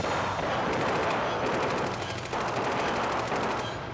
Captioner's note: gunfire